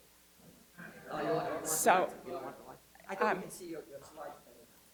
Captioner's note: murmuring